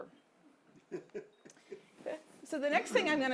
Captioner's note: audience member laughing